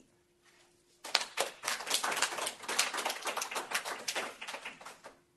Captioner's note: applause